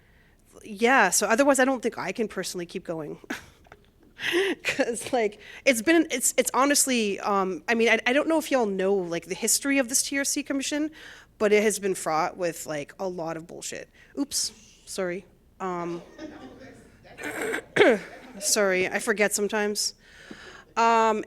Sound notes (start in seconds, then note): 3.3 laughter